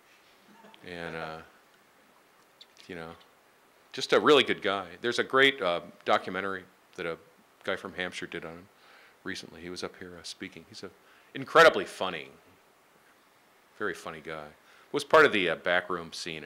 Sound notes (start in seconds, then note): 0.5 laughing; 2.3 inaudibly whispers